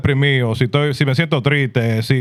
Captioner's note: non-english Speech